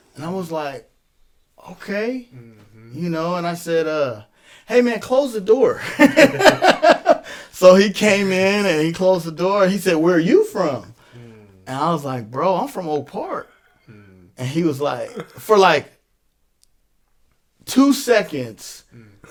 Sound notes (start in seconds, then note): 5.8 laughs